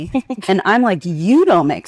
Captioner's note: participant laughing